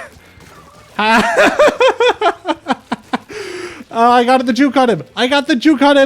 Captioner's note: laughter